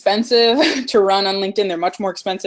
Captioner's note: sighs